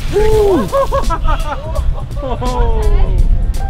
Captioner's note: laughing